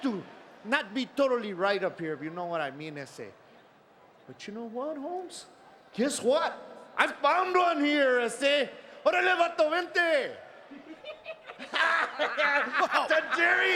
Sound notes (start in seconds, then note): 9.3 Eddie speaks in Spanish; 10.7 both laughing